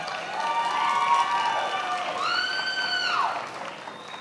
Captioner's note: attendees applauding